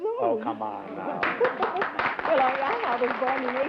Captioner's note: applause